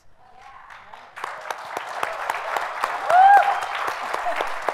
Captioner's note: audience applauds